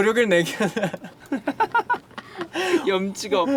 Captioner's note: laughter